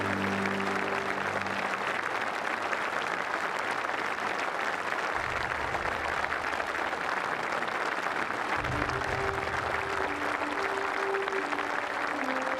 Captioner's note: applause; speaking french